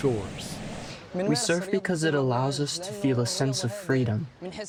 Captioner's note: through translator